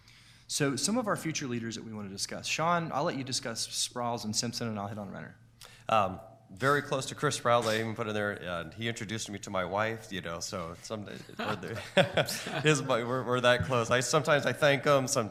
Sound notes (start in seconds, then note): 11.1 laughing